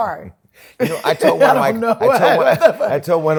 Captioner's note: laughter